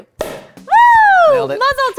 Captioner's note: cork pops